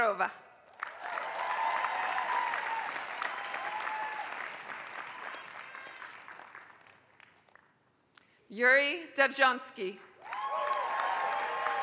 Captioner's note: applause; applause